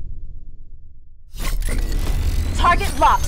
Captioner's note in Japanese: 金属音